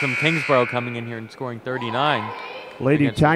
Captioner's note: buzzer sounds